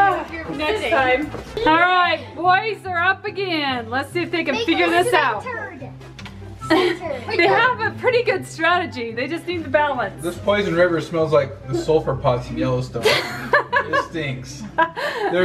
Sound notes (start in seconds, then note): 6.7 laughs; 13.0 laughs